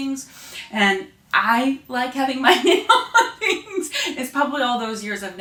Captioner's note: laughing